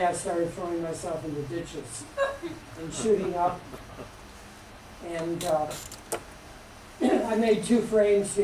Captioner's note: laughter